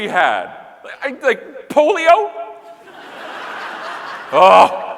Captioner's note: audience laughing